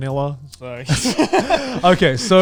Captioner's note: men laughing